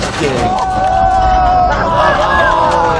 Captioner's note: men yelling